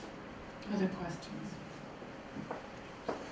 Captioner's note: voiceover